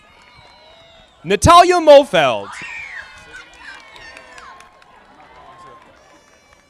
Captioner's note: audience applauding